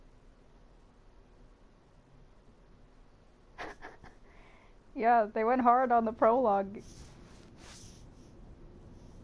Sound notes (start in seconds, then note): 3.6 laughs